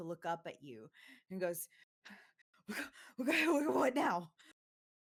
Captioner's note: gasping